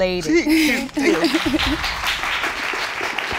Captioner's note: exclaims; coughs; applause